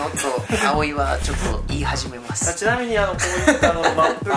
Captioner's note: laughs